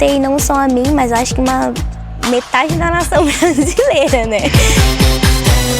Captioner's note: laughs